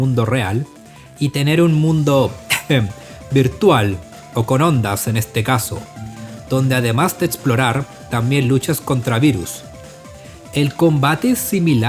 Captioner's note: cough